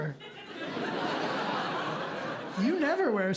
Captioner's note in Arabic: ضحك